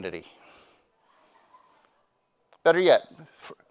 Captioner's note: attendee giggling